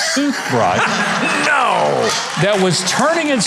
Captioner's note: laughs; audience laughing